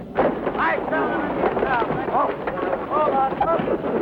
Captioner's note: shouting